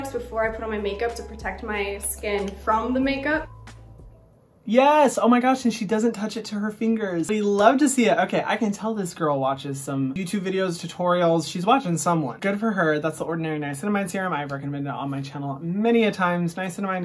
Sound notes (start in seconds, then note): 2.4 clapping